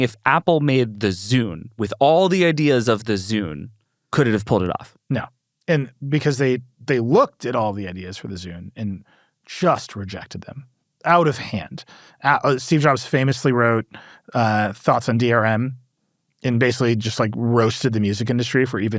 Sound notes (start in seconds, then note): none